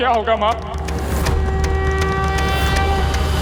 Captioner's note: conch blows